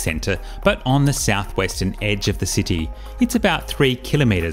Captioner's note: none